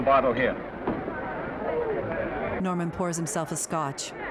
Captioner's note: chattering fading out